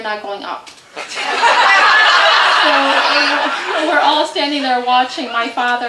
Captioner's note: audience laughter